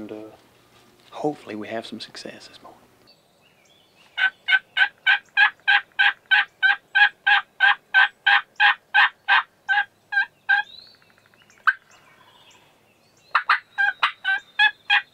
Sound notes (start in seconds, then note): 4.4 turkey yelping; 10.5 turkey yelping; 13.0 birds chirping